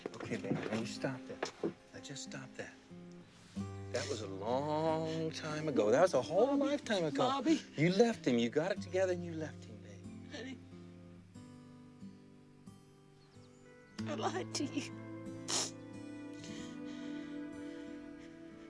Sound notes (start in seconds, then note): 3.8 sniffles; 15.4 sniffles